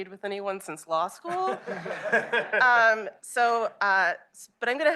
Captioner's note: laughter